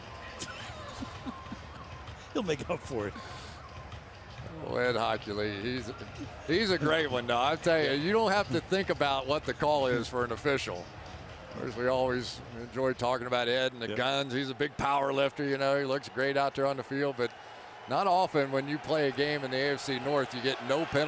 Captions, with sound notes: I miss him. [laughter] He'll make up for it. Ed Hochuli, he's a great one though. I'll tell you, you don't have to think about what the call is for an official. We always enjoy talking about Ed and the guns. He's a big power lifter, you know. He looks great out there on the field. But not often when you play a game in the AFC North